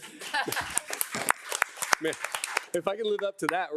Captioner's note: board of trustees and attendees applauding